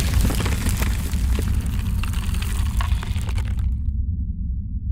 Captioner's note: loud thud; crumbling noise